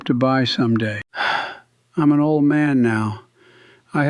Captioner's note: sighs